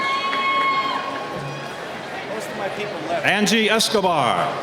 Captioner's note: cheering